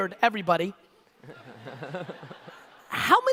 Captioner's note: audience laughter